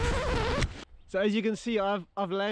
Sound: record scratching

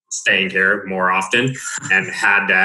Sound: laughing

